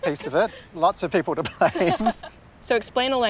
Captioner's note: laughs